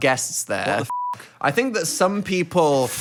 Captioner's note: beep